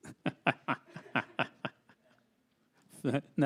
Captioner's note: laughs